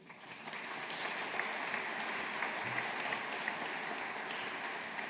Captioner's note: audience applauding